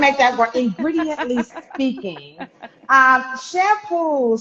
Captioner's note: chuckling